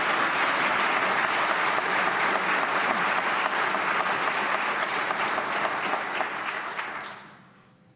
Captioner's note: applause